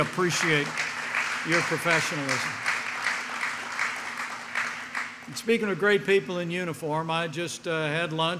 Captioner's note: applause